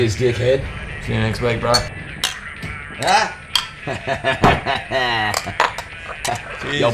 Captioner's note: laughs